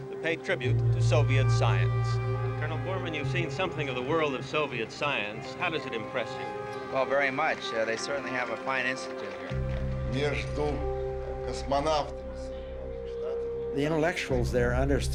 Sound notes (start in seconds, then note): 9.7 speaking Russian